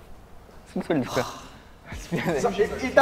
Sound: deep sigh

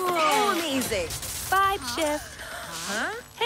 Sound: electricity crackling; gasping in confusion

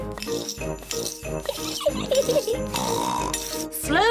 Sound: giggles and snorts

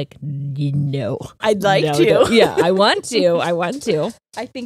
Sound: laughs

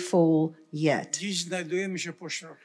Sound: foreign language

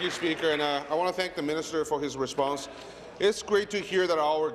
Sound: applause

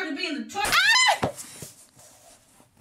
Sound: girlish screams

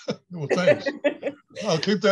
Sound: laughs

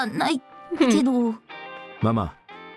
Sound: chuckles

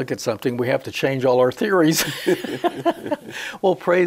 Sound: they laugh together

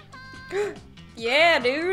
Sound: gasps

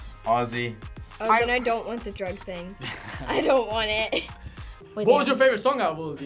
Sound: laughs

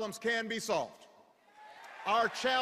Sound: cheers

